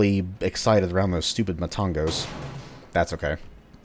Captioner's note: vent smashy